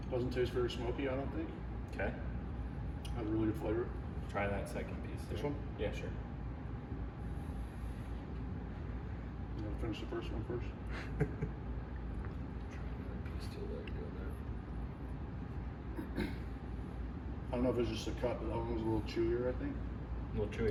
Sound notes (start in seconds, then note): 10.9 giggles